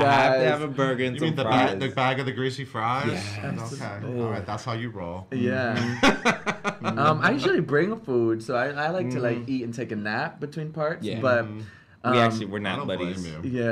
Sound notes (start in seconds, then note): 5.6 laughs